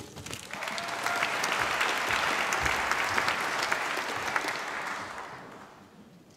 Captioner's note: applause